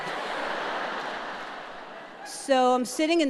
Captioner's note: audience laughing